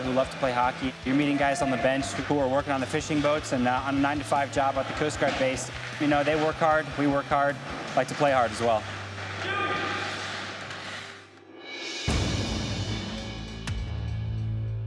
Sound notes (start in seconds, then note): 9.3 mixed shouts; 12.3 tense music